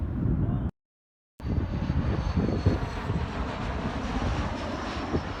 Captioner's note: plane engine roaring